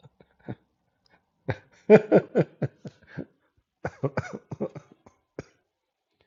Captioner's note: Ketawa